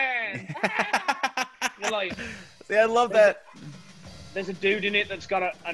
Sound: laugh

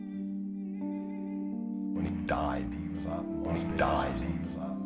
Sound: echoing

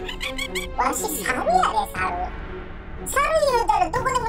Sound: speaking monkey

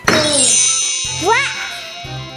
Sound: magic wand

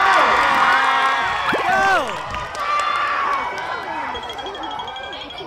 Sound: whooping and cheering

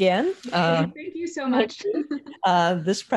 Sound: laugh

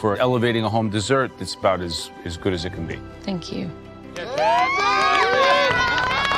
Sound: cheering

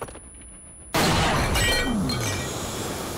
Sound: gunshot

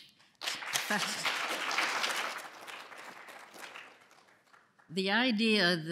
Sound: applause

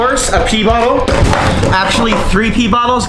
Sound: bottles rattles

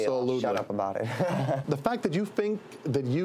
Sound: laughing

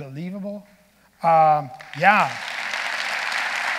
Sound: audience applauding

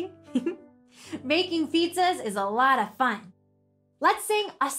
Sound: giggles

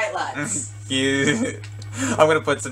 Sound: laughs

